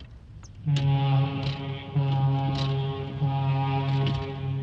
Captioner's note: foghorn blows